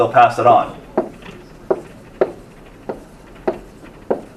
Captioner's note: marker thudding